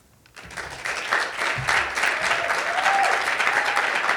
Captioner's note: audience applauding